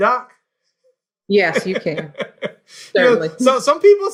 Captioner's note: laughing